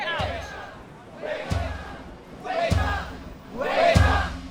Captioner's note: crowd